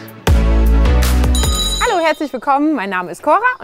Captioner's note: bell ringing